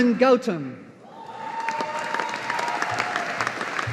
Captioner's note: audience applauding